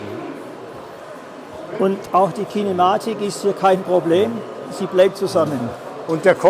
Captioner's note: electrics